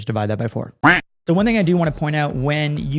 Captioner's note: duck quacks